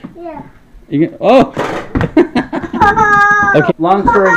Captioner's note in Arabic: يضحك